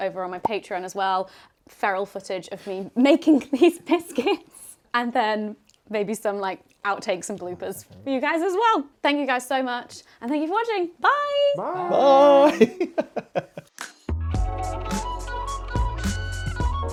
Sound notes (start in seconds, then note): 12.2 laughing; 14.1 gentle music